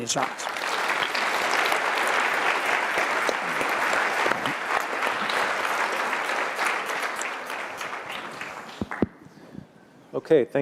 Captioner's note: applause